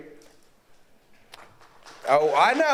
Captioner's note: audience applauds